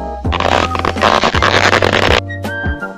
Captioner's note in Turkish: lastik esnetme sesi